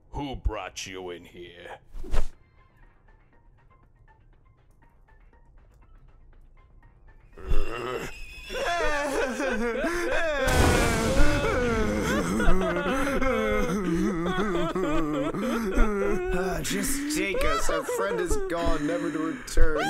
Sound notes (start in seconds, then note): 9.4 crying; 10.4 lighting strike and fire flash